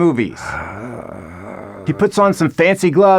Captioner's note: sighs